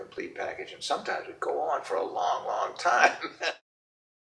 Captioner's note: laughs